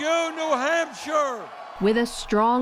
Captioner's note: cheering and applause